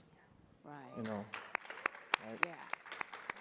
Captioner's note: audience applauds